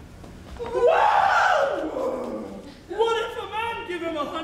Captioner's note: Grumio cries out